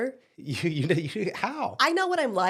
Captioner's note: laughs